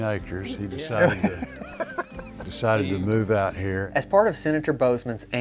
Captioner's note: laughing